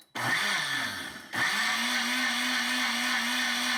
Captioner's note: blender whirs